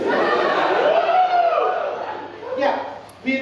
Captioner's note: audience laughing and cheering